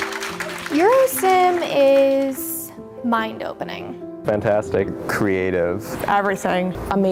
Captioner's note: clapping